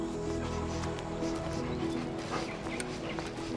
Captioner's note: sniffing